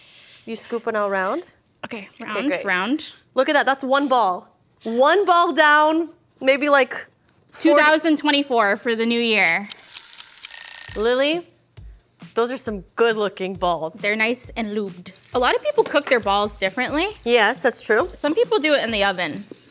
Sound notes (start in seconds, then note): 9.7 timer Ticking; 10.4 timer Ringing